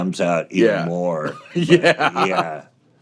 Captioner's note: laughs